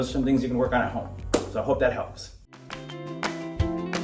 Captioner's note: doctor clapping